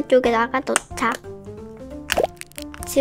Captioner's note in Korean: 꾸깃